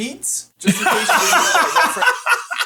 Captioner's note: laughing